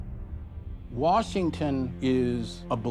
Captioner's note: none